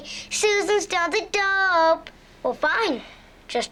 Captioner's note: singsong voice